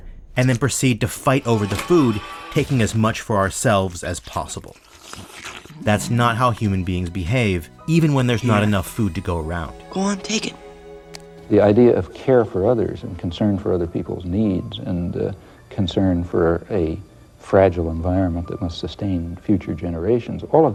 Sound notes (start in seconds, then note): 3.8 slurping